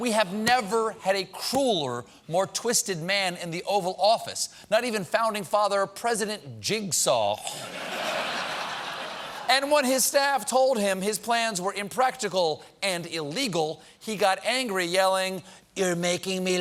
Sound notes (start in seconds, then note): 7.5 laughter